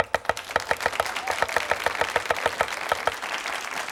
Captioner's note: audience applauds